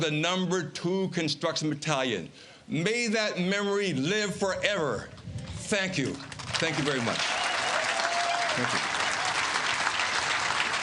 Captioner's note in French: Voix en Anglais